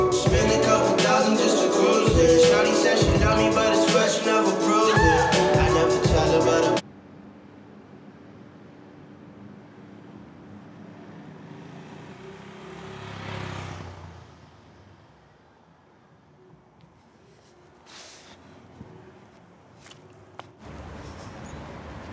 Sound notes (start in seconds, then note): 5.0 yells; 17.4 sighs